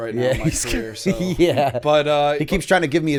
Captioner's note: chuckle